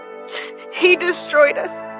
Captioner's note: snsnifflfleses